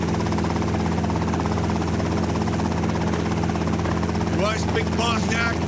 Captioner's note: helicopter blades whirring